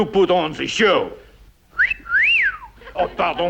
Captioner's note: wolf whistle